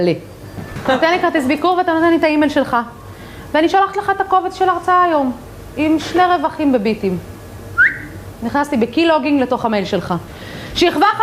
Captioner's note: whistle